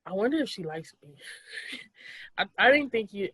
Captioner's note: laughs